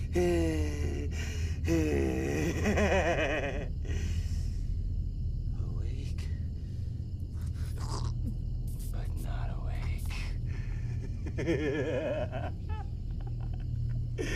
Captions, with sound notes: (Patrick wheezing and cackling) - Awake... (Donovan choking) but not awake. (Donovan cackling)